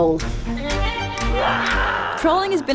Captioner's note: roars